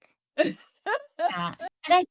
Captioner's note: laughs